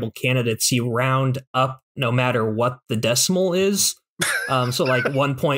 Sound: laughter

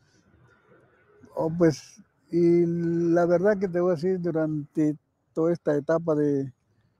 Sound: speaking in foreign language

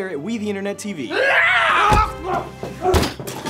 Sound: screams

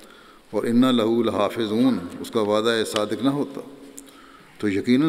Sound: Arabic

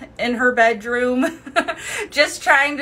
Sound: laughing

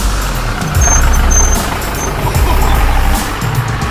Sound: engine roaring

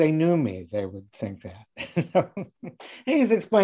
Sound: laughing

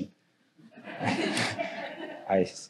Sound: audience applauding

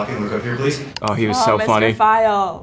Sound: computer click

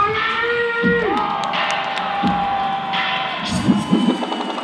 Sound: crowd cheering

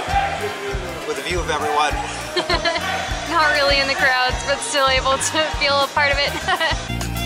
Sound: laughter

